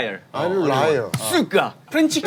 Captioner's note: in Russian